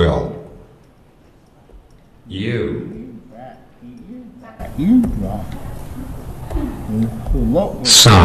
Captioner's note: computer voice